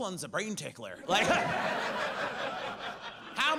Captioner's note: audience laughs